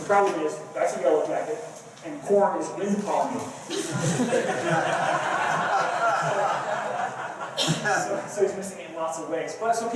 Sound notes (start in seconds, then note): 3.7 laughter